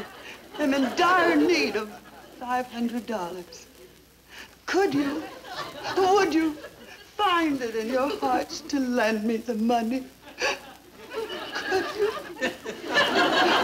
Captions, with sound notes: am in dire need of $500. Could you, would you find it in your hearts to lend me the money? (sobbing) Could you? (audience laughing) - How can we refuse her?